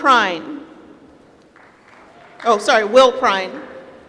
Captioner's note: applause